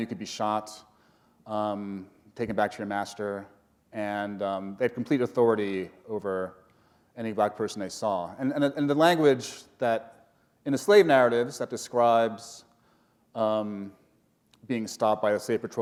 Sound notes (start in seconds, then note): none